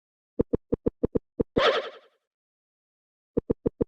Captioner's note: game sound effects